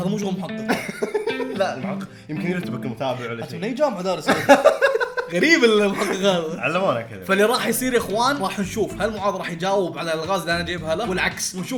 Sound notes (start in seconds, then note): 0.5 laughs; 4.1 laughs